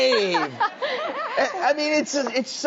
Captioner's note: laughing